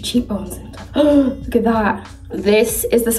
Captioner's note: Nicola gasps